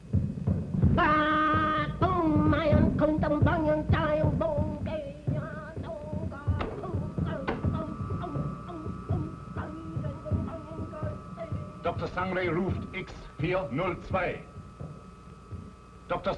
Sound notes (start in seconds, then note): 0.1 pounding of jungle drums; 1.1 chanting; 13.5 speaking in german